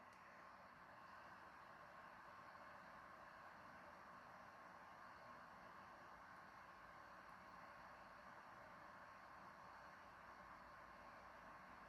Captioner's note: laptop fan noises